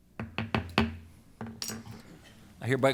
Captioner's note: gavel